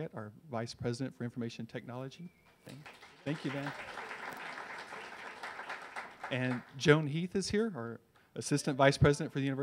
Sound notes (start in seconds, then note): 2.7 audience applause